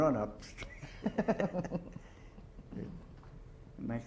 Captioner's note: chuckles